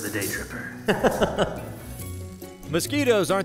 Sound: laughing

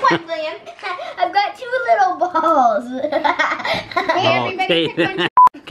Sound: laughs; beep

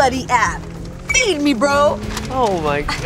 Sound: bell chime

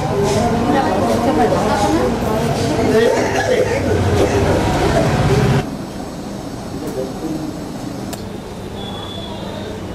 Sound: horn honking

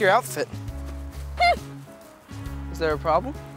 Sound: scoffs

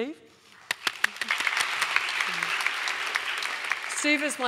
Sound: audience applauding

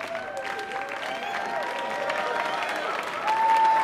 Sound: cheering

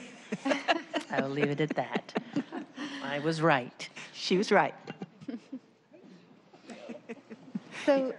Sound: laughter

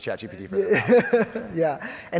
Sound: chuckles

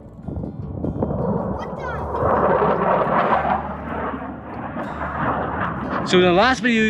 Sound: jet engine roaring

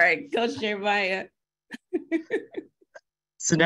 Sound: laughs

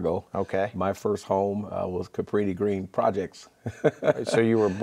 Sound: laughing

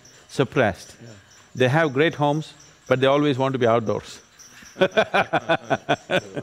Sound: both Laugh

